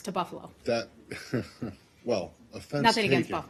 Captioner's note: laughter